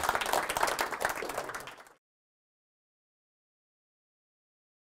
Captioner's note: audience applause